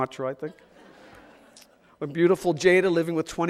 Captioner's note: audience laughs